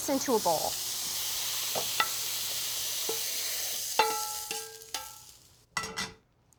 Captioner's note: sizzling